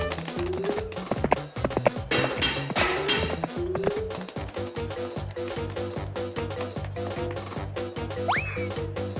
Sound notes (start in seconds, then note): 1.6 clattering